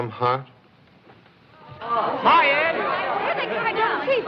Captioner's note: all Chattering